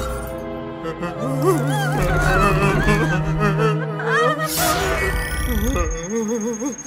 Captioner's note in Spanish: Muchos gemidos; ¡Beep Beep!